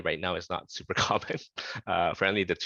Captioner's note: laughter